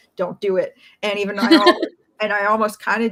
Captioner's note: laughs